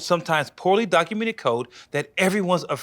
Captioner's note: none